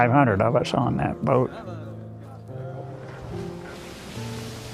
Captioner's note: men chattering